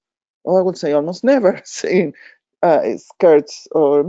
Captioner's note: chuckling